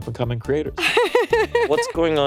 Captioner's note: laughing